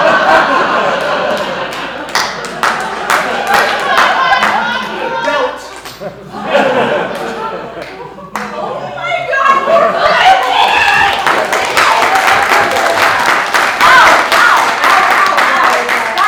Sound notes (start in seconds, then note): 10.4 applause